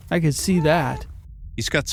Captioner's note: cat’s meowing can be heard in the background